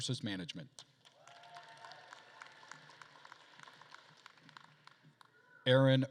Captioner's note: attendees applauding and cheering